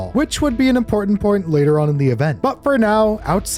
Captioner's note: none